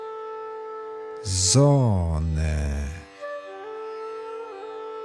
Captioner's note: german